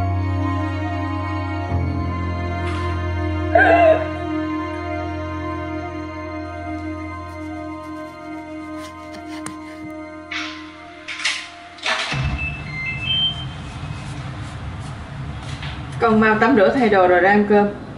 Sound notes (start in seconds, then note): 9.6 door